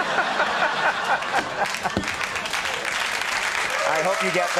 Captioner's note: audience laughing; audience applauding